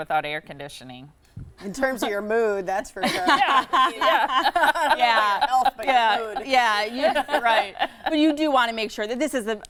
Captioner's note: laughing